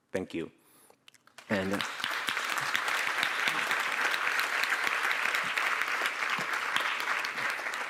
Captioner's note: applause